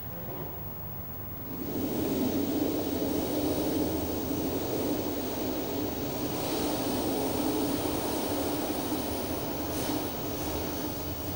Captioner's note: blows into the microphone